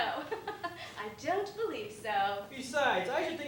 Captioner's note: laughs